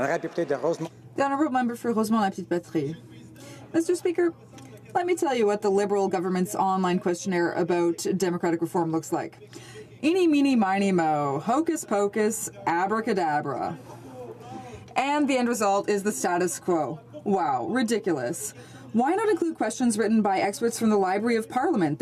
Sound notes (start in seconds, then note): 5.5 speaking French